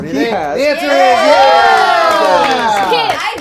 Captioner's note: cheering